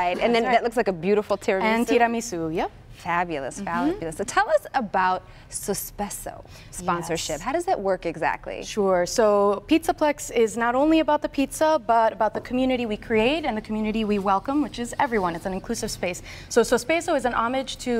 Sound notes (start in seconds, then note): 1.2 speaking italian